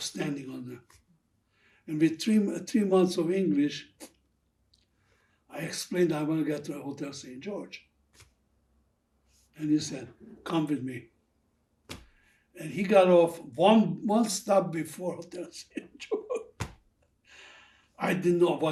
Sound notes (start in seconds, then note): 15.0 laughing